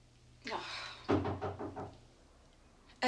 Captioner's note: groans softly; knock on door